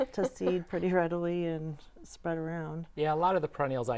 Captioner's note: laughing